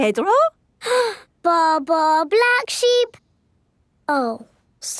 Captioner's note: inhales